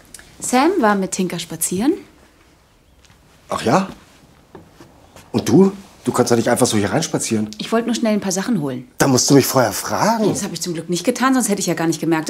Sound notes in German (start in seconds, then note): none